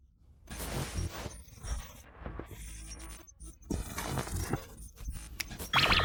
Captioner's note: voice glitching, stuttering